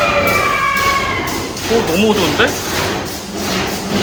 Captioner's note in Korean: 앞서간 팀들이 지르는 비명소리